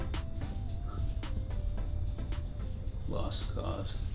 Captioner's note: Patient #3 huffs